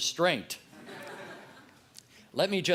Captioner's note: laughter